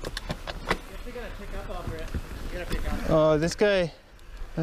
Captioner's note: group chatting